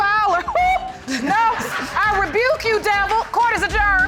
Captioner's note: exhales; audience laughing